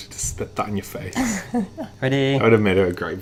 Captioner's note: laughs